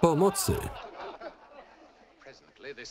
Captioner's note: laughter